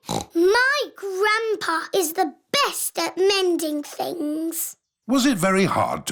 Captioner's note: snorts